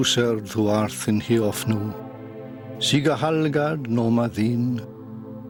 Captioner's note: man reciting "The Lord's Prayer" in Old English